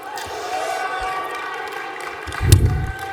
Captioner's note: cheering; clapping